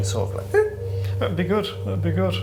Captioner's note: imitates popping sound